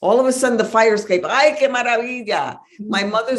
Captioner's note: speaks Spanish